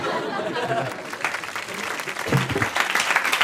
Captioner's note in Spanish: Risas y aplausos